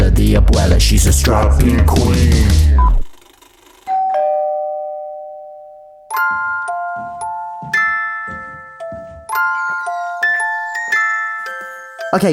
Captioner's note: doorbell